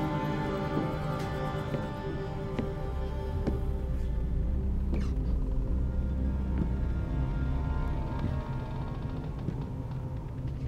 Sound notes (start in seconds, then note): 3.9 tense ominous music; 3.9 wood creaking